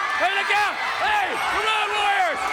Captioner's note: crowd cheering